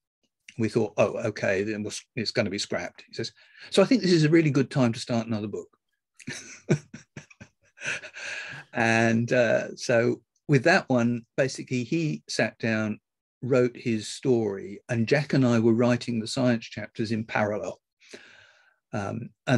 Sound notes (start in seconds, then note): 6.2 laughs